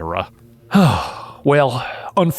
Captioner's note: Book sighs